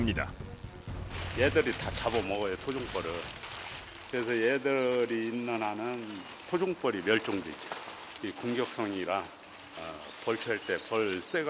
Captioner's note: hornets